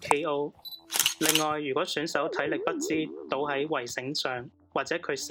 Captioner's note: shutter sound